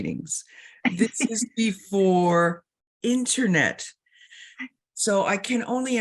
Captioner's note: chuckling